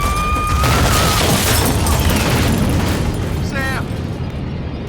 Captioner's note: suspenseful music; explosions; screaming